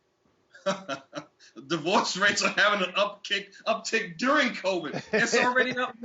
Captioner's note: laugh